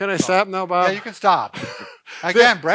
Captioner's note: laughs